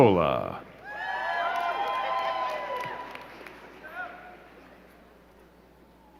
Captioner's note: crowd cheering and clapping